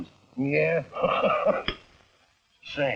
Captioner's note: laughing